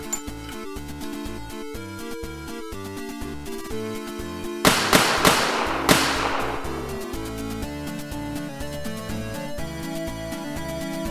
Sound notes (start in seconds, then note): 4.6 gunshots